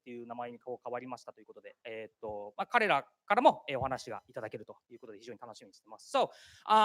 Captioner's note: speaking japanese